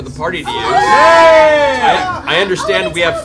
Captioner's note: cheering